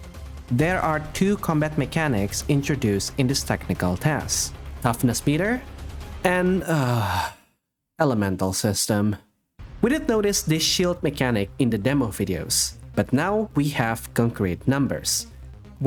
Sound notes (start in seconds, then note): 6.6 sigh